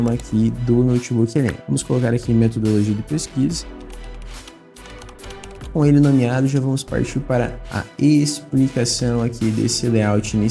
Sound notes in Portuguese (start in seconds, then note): 3.6 Som de teclado